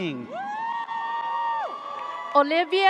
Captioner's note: audience cheers